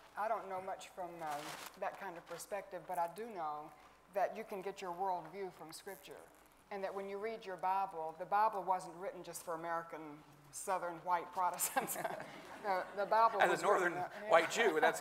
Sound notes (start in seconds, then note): 11.7 chuckles